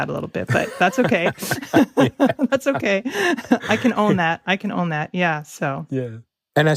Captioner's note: laughs